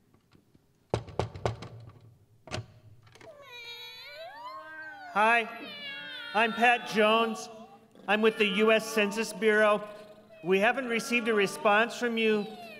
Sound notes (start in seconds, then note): 0.9 knocking on door; 2.0 cats meowing